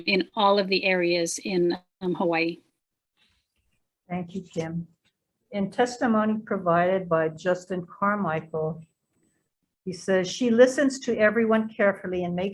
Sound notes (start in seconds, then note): none